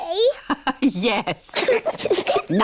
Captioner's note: both giggle; laughs